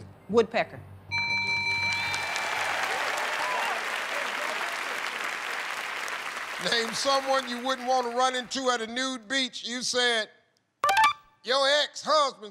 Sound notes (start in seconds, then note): 1.1 bell rings